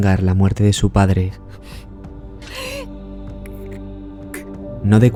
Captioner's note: nervous breathing